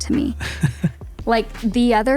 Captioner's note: chuckles